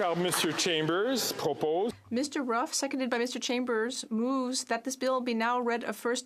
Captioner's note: some Applause